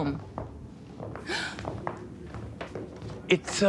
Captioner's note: Morticia gasping